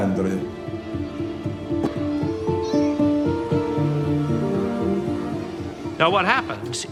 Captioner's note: gentle music; children chattering